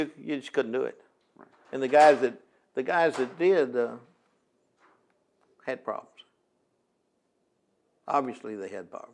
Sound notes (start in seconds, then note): 2.9 door closes; 3.0 door opens